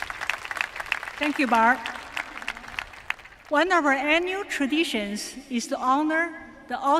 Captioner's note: applause